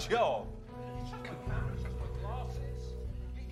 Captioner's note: telepon berdering di ujung lain